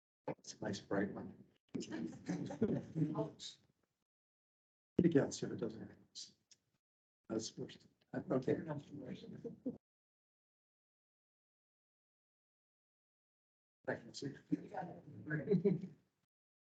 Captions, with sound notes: That's a nice bright one. [people laughing] [indistinct chatter]